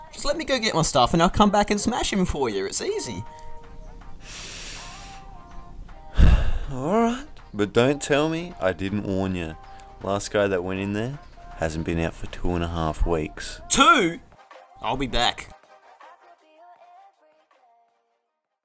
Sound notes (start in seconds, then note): 4.2 sniff; 6.1 exhale of the century